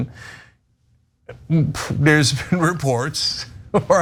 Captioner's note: laugh